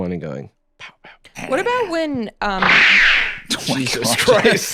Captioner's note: abrupt laser noise